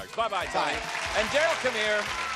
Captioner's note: applause